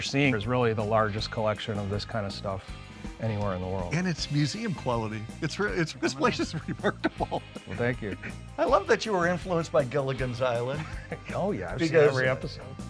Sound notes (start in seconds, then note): 5.8 laughs; 10.8 laughs